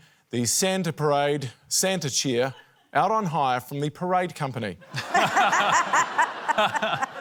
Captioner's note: laughter